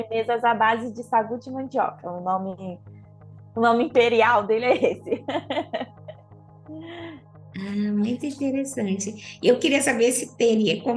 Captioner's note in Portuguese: risos